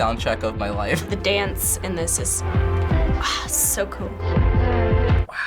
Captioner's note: sighs